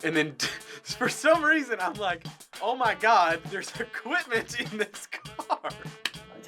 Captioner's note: laughing